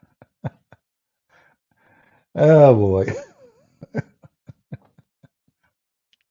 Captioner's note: Ketawa